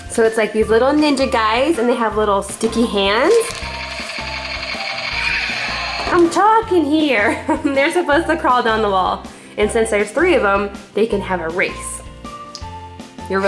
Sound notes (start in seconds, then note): 3.6 toy laser gun sound effects